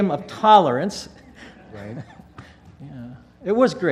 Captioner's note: laugh